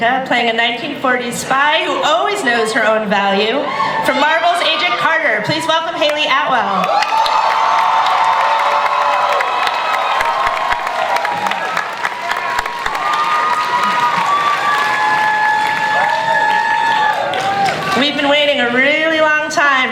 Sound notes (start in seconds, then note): 8.3 audience cheering and applause